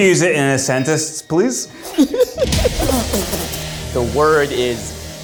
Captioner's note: laughs